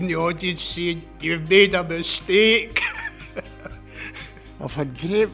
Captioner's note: laughs